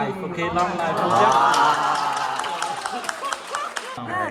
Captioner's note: exclaims and applause